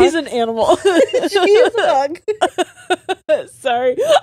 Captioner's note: all laughing